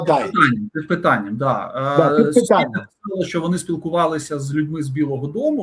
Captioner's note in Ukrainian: прочищення горла